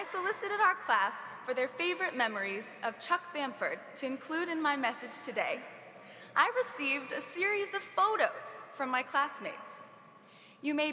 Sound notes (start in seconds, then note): none